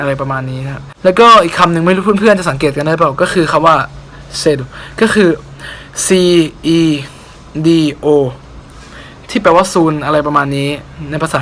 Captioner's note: Speaking as Brazilian Portuguese